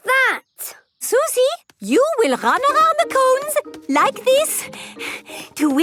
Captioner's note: panting